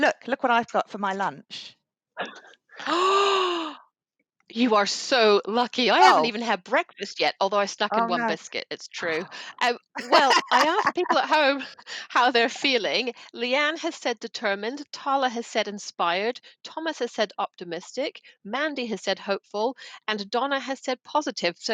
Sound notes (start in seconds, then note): 3.2 gasps; 9.8 laughs